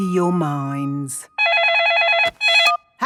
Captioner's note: phone ringing